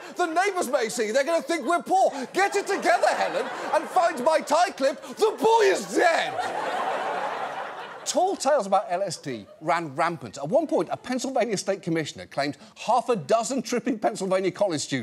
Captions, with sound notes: The neighbors may see, they're gonna think we're poor! Get it together, Helen, and find my tie clip! The boy is dead!" (AUDIENCE LAUGHS) Tall tales about LSD ran rampant. At one point, a Pennsylvania state commissioner...